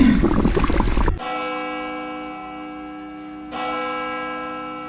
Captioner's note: bells